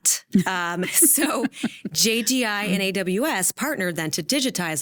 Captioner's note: laughing